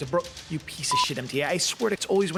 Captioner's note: beep